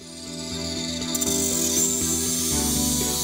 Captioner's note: sound of a saw